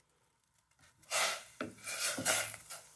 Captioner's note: pan hissing